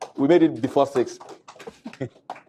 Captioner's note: applause